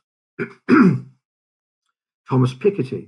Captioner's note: clears throat